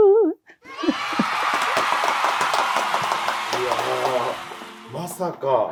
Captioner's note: cheers